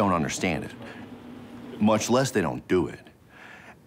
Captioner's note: none